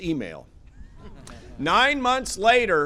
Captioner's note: laughter